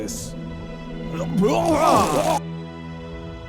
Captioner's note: epic puking noises